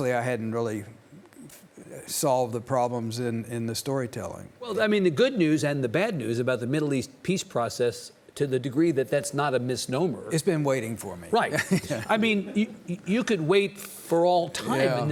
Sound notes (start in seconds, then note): 11.5 Lawrence chuckling